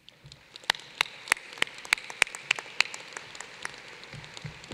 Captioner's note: applause